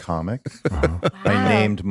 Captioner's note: Justin laughing